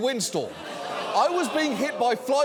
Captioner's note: audience groans